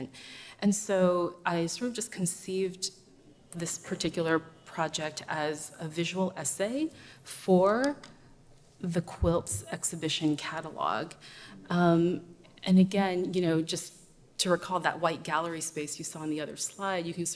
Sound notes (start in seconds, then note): none